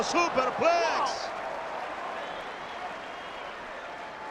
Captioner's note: applause